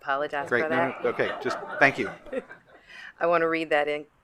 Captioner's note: attendees laughing